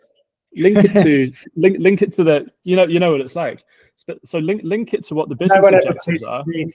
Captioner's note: laughing